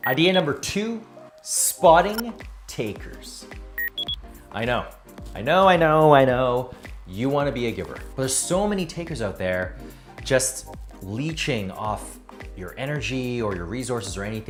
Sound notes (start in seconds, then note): 3.8 electronics beeping